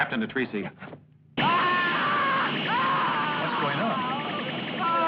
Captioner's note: screams